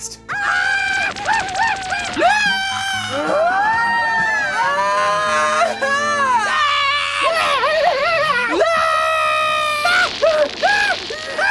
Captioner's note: Ataru screaming